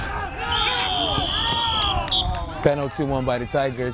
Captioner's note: whistle